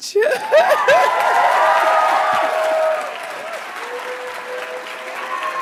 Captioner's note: laughs; attendees cheering and applauding